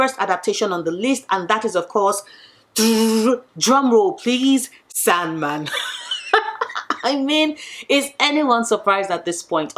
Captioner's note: laughs